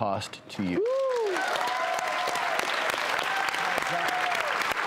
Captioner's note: audience clapping